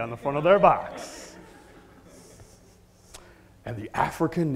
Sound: laugh

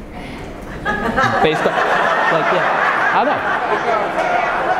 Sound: audience laughing

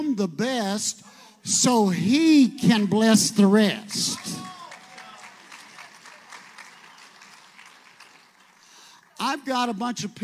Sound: audience applauds

